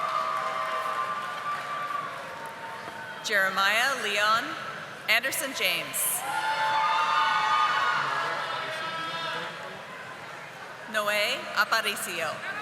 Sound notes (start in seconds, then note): 8.6 audience applauding